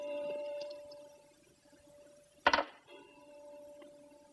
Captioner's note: clock chiming